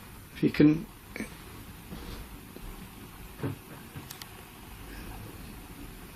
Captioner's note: furniture thudding